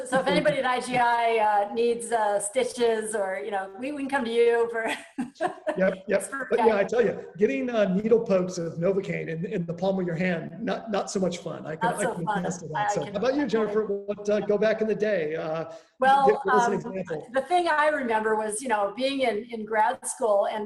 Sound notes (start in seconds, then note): 5.1 chuckles